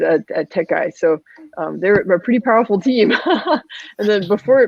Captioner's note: laughs